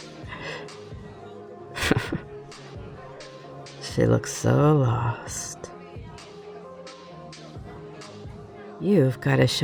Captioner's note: snicker